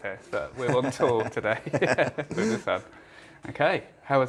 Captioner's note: laughs